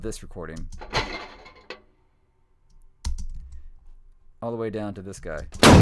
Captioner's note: metal clanking